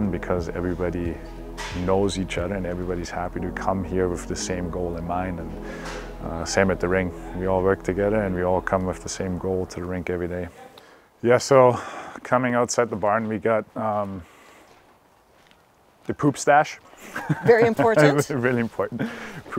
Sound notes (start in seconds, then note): 17.0 laughs